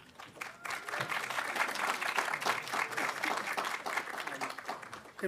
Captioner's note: audience applauding